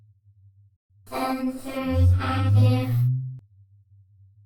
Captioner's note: hummm!